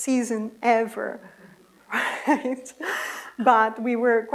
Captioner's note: laughter